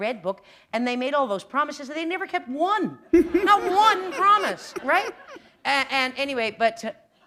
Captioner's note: laughter